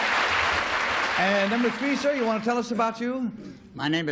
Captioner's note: applause